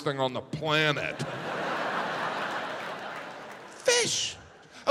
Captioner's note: audience laughs